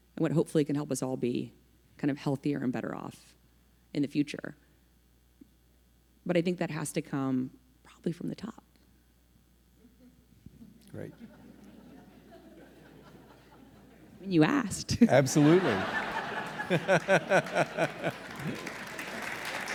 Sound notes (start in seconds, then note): 12.5 people laughing; 16.6 audience clapping